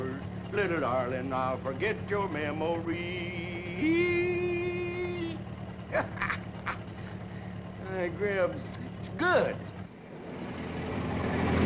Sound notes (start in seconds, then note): 5.8 Harris laughs